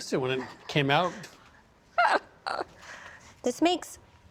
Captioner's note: laughs